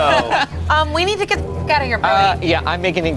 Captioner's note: beep